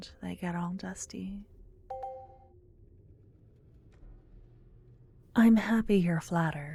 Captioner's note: positive sounding chime in the distance